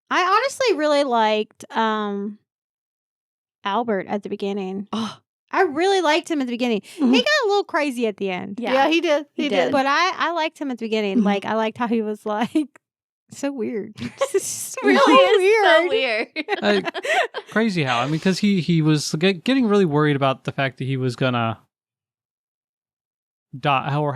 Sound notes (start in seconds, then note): 16.2 both laughing